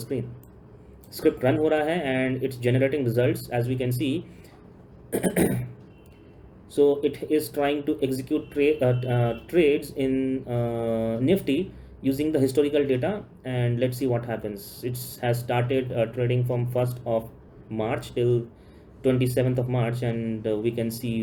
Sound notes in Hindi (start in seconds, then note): 5.1 गला साफ़ करने की आवाज़